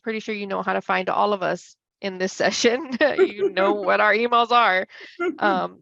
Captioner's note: laughs